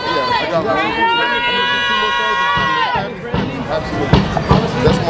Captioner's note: audience yelling